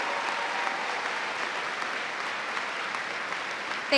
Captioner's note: cheers and applause